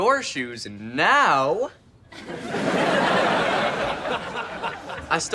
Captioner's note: audience laughs